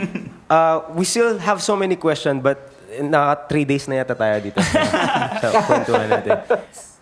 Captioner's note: laughs